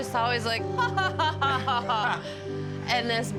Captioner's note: laughter imitating brandon